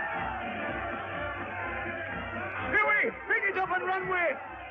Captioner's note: crowd cheering